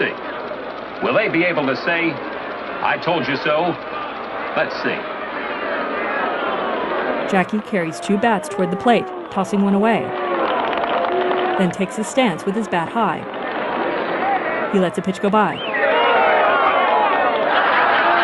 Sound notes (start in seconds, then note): 6.6 mixture of crowd cheers and boos; 16.0 mixed applause, laughter, and booing